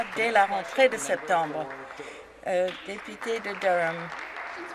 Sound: some Applause

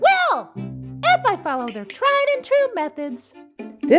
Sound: click click

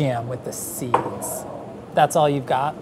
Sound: jar clunks

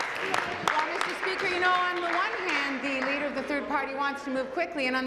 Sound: applause

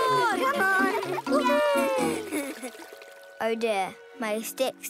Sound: cheering

